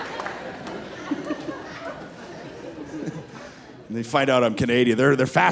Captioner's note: laughing